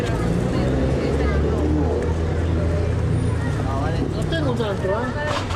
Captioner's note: speaking spanish